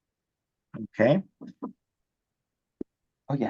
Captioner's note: knock on door